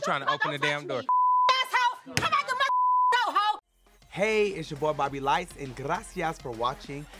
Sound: beep

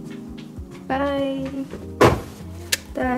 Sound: crash

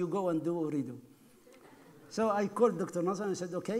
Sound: laughing

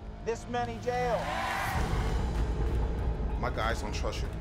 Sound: crowd cheering

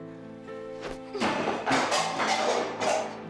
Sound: clanging

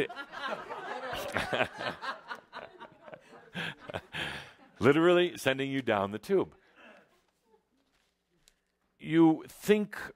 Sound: laughter

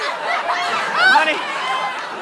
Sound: audience laughter

